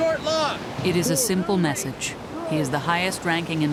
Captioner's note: voiceover